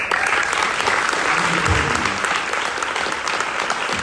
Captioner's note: audience applauds